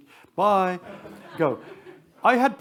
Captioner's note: attendees laugh